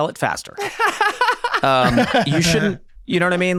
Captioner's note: laughing